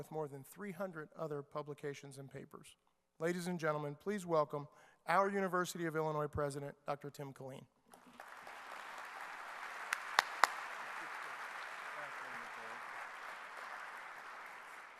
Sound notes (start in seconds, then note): 8.0 clapping